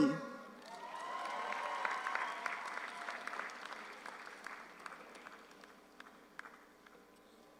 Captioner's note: audience applauds; audience cheers